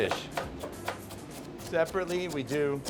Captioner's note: chopping